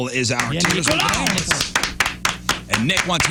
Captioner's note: clapping